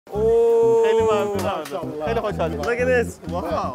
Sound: speaking foreign language

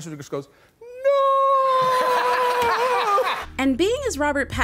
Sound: laughs

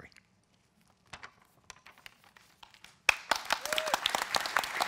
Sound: applause

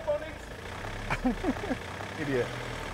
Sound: laughing

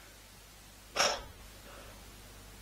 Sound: sighs

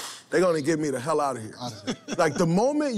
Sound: laughter

